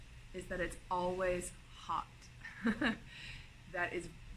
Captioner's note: laughing